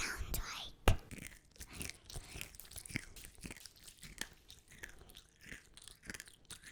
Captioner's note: whispering; crunchy chewing